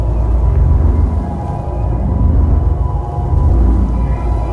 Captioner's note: power pulsing